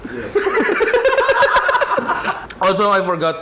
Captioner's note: laughter